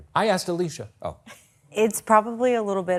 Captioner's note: chuckles